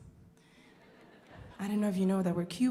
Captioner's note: audience laughing